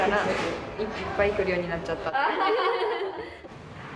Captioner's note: laughs